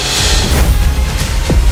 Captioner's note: thud